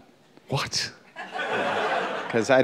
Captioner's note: laughter